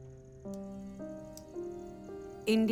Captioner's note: clicking pen